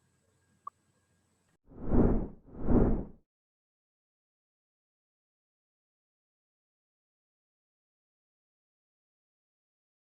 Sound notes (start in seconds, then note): 2.5 title whooshing